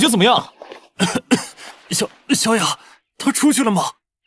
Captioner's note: cough cough